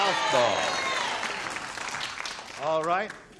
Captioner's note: applause